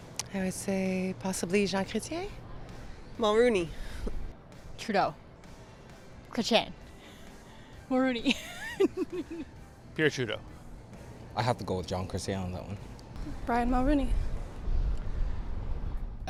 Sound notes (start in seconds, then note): 8.2 laughter